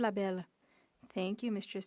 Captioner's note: speaking French